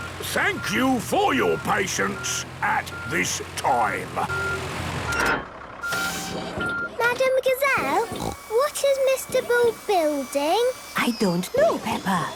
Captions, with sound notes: Thank you for your patience at this time. - (beeping, hydraulic noises) - Madam Gazelle, what is Mr. Bull building? - I don't know, Peppa.